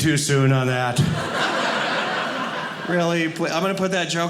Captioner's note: audience laughing